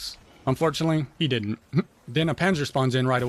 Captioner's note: laughs